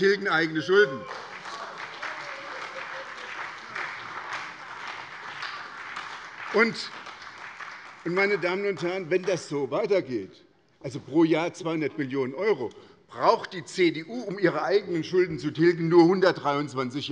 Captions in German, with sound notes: Sie tilgen eigene Schulden. [Heiterkeit und Beifall bei der SPD] Wenn das so weitergeht - pro Jahr 200 Millionen € -, dann braucht die CDU, um ihre eigenen Schulden zu tilgen, nur 123 Jahre.